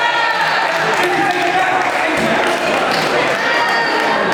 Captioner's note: group chattering